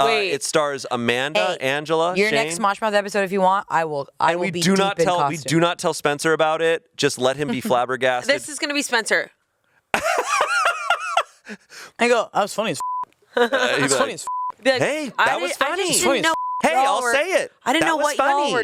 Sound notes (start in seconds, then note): 10.0 laughs; 13.8 beep